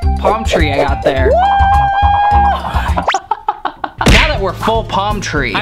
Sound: laughs

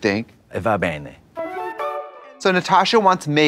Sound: bright chime

